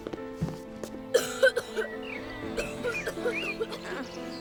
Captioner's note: coughing